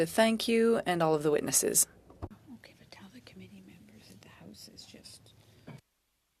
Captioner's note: speaking French